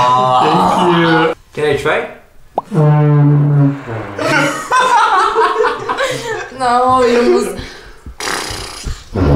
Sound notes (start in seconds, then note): 4.2 laughes